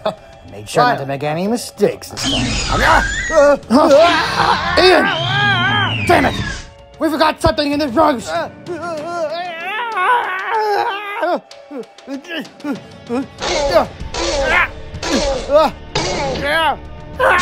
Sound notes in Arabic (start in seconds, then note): 8.7 أصوات إيان تكافح; 14.0 أصوات فيلوسيرابتور